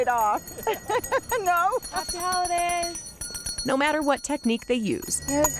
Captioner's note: laughter